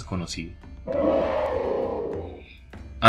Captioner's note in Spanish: Grito de "¡No!" distorsionado